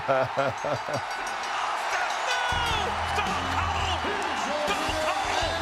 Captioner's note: laugh